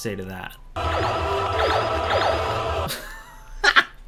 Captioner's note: blaster firing sounds